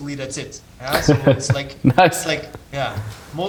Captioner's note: chuckling